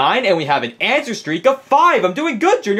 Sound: none

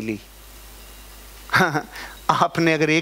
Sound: chuckles

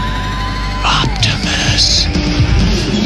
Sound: whispered reverently

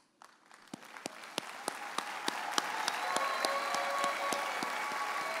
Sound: audience applauding and cheering

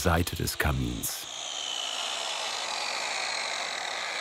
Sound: machine slows down

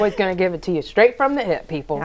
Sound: laughing

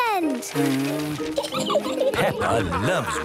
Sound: blows

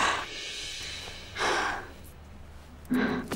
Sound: exhales sharply

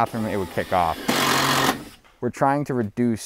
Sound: loud drilling

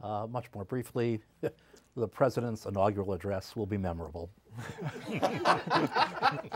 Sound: laughter

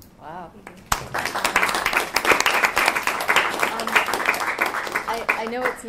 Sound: audience applauding

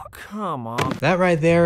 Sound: thud

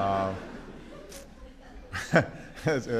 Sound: laughter

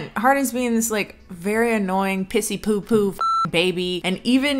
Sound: beep

